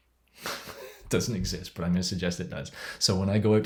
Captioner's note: laughs